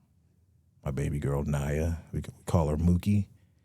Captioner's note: none